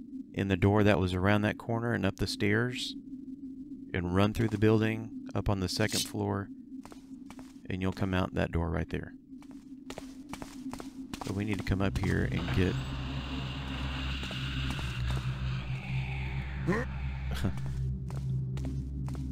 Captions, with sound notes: in the door that was around that corner and up the stairs. And run through the building, up on the second floor, and you'll come out that door right there. But we need to come up here and get... [laughs]